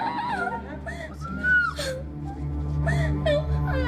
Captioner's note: crying